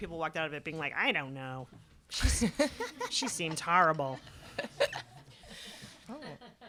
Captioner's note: laughter